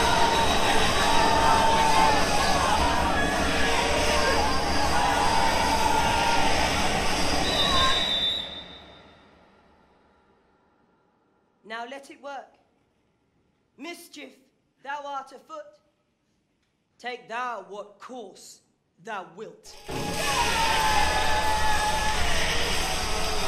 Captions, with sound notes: (whistle blows) Now let it work. Mischief, thou art afoot, take thou what course thou wilt. (crowd screams) (intense music)